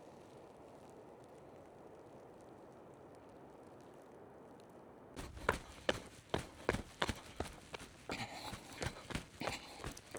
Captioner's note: wind blowing